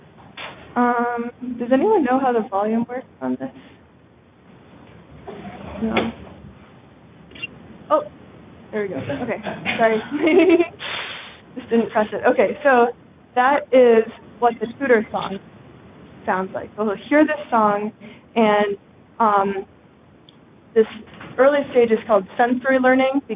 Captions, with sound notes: Does anyone know how the volume works on this? No. [BIRD CHIRP] Oh, there we go. OK, sorry. Just didn't press it. OK, so that is what the tutor song sounds like. So they'll hear this song. And this early stage is called sensory learning,